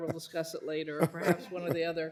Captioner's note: laughter